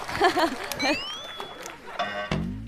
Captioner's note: delayed laugh